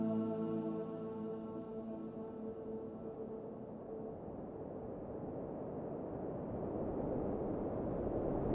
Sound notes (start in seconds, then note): 2.6 wind whistling